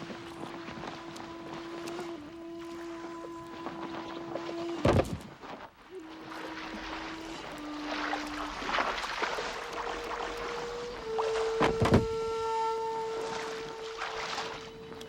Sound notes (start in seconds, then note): 0.1 dramatic music; 5.0 boxes thudding; 6.8 water splashing